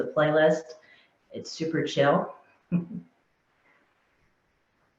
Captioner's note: chuckling